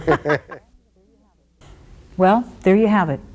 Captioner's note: both laughs